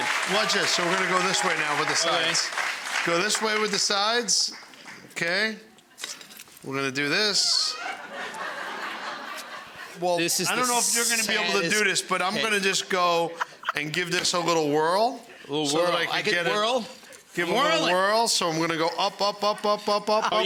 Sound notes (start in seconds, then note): 7.5 audience laughing